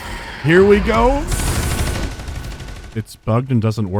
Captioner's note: still punchy, medium-speed gunfire